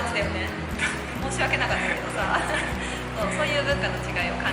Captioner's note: 苦笑